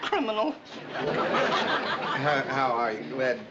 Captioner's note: audience laughs